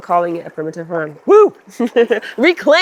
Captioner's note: laughs